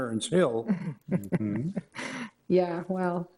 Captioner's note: laughs